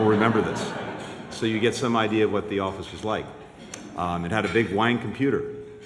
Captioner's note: laughter